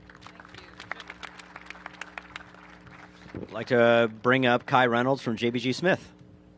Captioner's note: applause